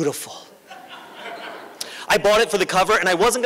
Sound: laughter

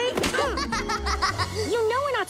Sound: she giggles

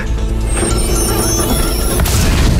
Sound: metal squeaking; boom

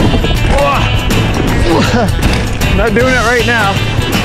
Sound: grunts

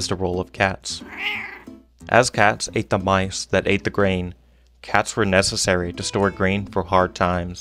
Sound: enter cat meow

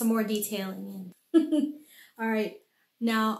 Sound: laughs

